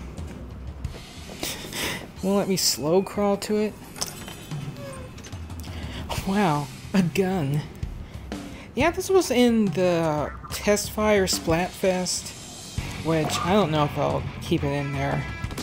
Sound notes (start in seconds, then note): 3.7 creak; 3.9 tsk